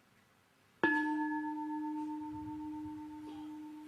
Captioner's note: bell